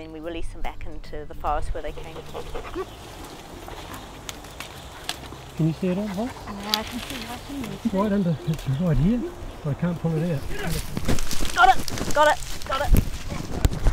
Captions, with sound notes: And then we release them back into the forest where they came from. [Dog panting and whining] [Rustling in bush] Can you see it..? Nah... It's right under, it's right here, but I can't pull it out. Got it, got it.